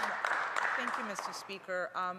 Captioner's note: some Applause